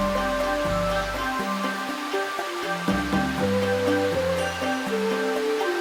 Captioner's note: rhythmic intrigue music; waterfalls sounds